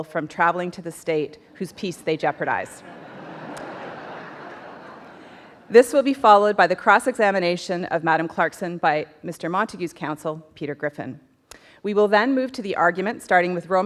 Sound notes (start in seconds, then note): 2.6 audience laughs